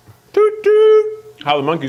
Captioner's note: imitates horn honking